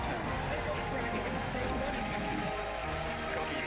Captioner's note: applause